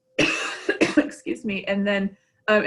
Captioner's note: coughs